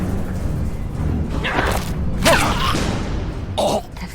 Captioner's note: stabbing